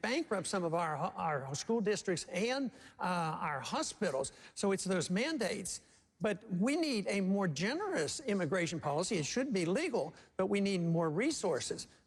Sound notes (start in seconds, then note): none